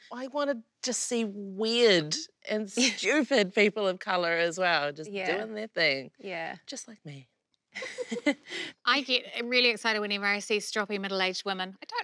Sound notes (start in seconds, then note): 7.8 laughs loudly